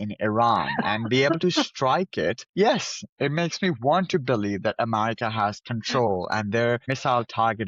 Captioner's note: laughs